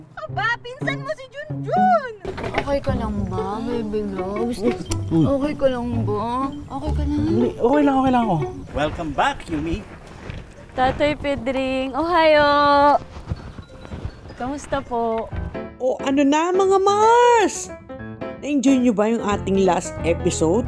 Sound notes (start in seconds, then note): 11.9 speaks in Japanese